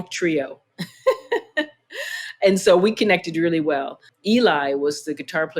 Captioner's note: laughter